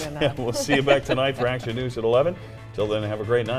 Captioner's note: laughter